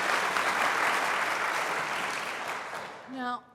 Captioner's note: applause